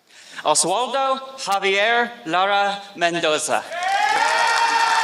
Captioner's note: applause